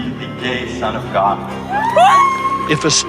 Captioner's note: cheers